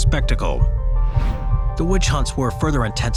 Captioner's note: supernatural music; screen wipe whooshes